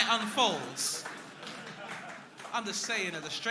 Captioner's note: crowd clapping